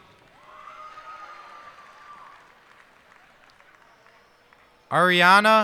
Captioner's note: cheers and applause